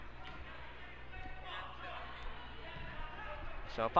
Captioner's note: crowd talking and yelling